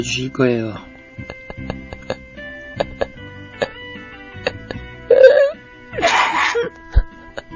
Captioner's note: sobbing